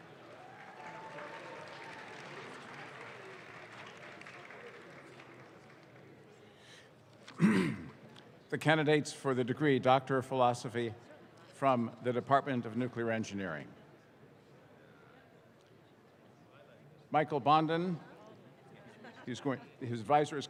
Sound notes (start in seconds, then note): 0.0 audience claps